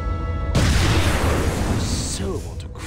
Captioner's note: object explodes